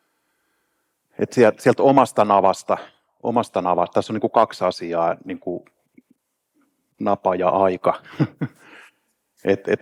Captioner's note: laughs